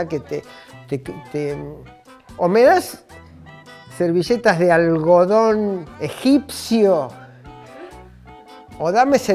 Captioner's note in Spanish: ríe